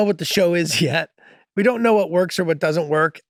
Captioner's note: Charlie laughing nostalgically